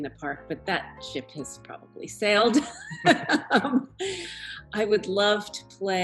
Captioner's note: laughter